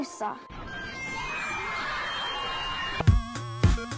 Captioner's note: sound of children laughing and screaming